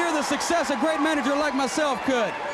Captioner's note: crowd cheering